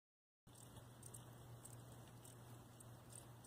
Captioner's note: cricket chirping